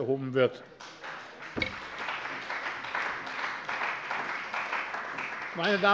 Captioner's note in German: Beifall bei der CDU und dem BÜNDNIS 90/DIE GRÜNEN